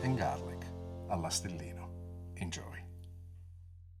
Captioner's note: speaks in foreign language